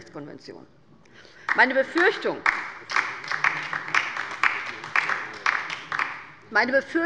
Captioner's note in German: Beifall bei der LINKEN